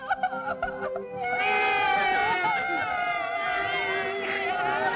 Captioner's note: sobbing; all wailing